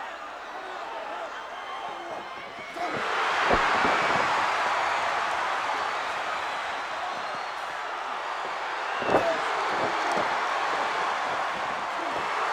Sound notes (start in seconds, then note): 3.6 crowd cheers; 9.7 body thuds